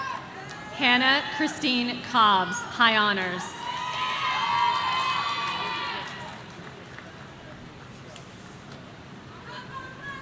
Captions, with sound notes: Hannah Christine Cobbs, High Honors. (audience cheering)